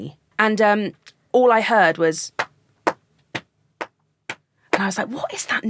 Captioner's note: clapping rhythmically